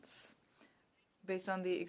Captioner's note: speaking French